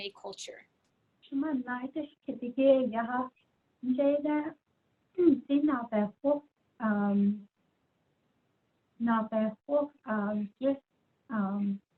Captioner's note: speaking in Diné